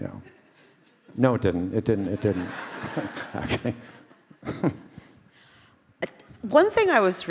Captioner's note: laughs